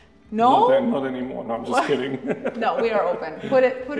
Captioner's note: laughs